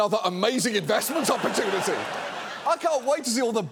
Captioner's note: studio audience laughing